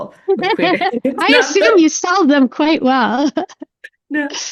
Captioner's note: chuckles